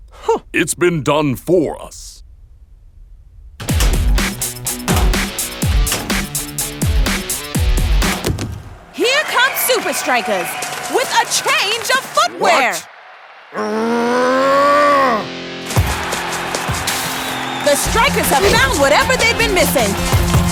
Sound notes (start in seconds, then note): 3.6 upbeat rock music; 13.5 grunting; 15.8 crowd cheering